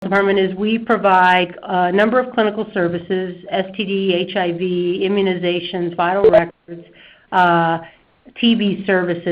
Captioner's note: beeping